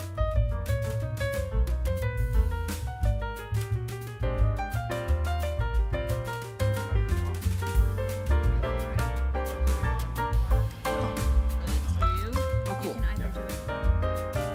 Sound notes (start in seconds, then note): 7.0 attendees chattering; 7.0 upbeat jazz music continues